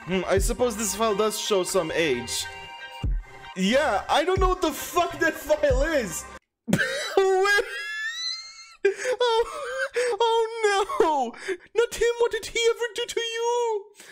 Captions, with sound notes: I suppose this file does show some age. Yeah, I don't know what the fuck that file is. [Laughing] Oh no! Not him! What did he ever do to you?